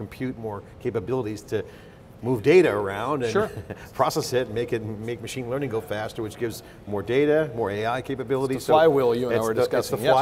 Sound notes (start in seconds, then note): 3.3 laughs